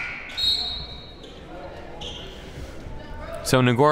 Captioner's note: referee blows whistle